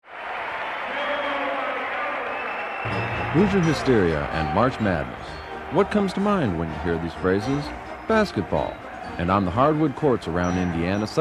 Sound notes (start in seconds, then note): 1.0 attendees cheering and whistling